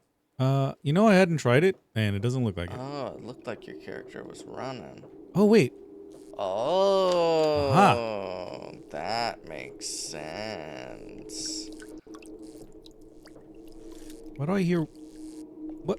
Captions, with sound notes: You know I hadn't tried it and it doesn't look like it. Oh, it looked like your character was running. Oh, wait. Oh, that makes sense. (water splashing) Why do I hear--